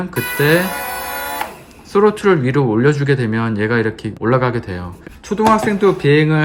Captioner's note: Throttle